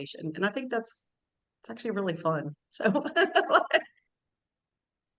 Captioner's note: laughs